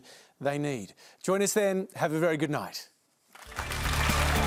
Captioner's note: applause